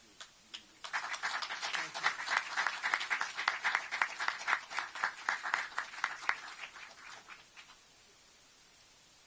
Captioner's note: applause